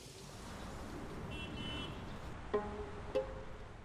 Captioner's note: car honks